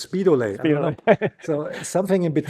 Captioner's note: chuckles